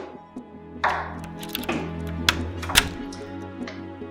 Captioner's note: turning key in cell lock